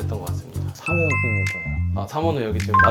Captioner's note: ding-dong